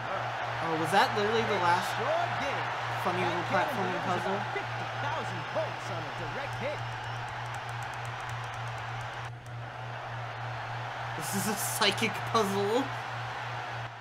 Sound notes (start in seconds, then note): 5.3 audience effect loops